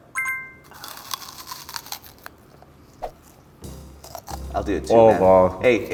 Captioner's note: crunching through onion